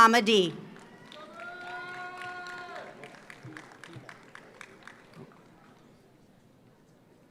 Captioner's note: audience cheers; audience applauds